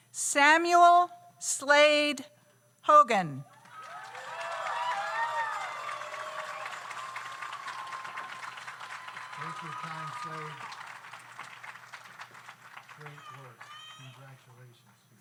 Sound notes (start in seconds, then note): 3.6 audience cheers; 4.0 audience applauds